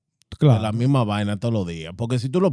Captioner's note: speaking Spanish